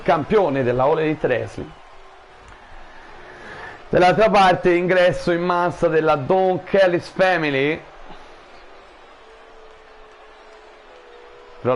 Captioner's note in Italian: Applauso